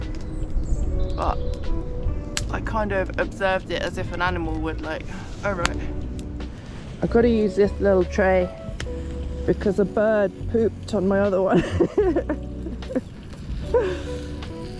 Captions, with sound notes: but I kind of observed it as if an animal would like.. oh right. I gotta use this lil tray because a bird pooped on my other one *laughs*